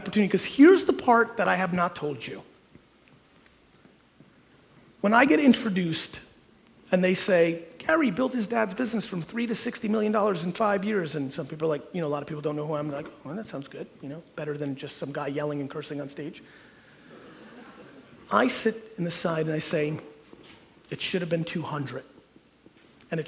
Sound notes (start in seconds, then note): 17.2 audience chuckles